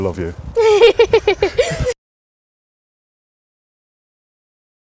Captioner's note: laughing